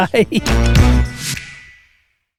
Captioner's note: logo whooshes